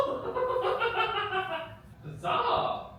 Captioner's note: laughing